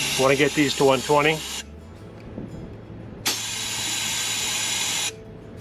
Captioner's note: tool hisses